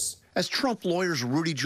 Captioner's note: none